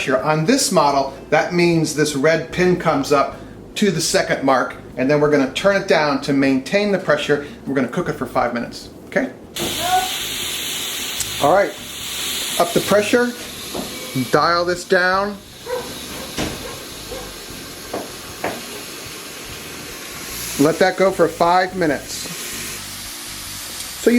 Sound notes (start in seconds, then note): 15.6 dog barking; 16.0 pot hissing